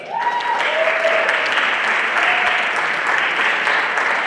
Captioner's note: everyone applauding